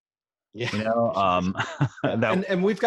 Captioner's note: laughing